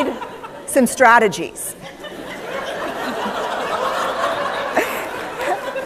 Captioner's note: laughter; applause